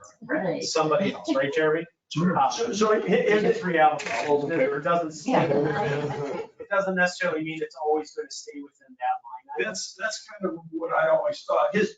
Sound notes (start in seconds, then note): 2.5 people chattering